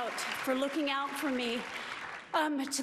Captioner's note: applause